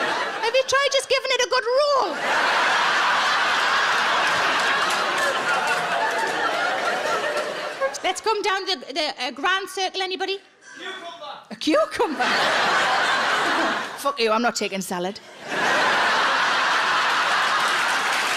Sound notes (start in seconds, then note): 1.7 audience laughs; 12.0 audience laughs; 15.2 audience laughs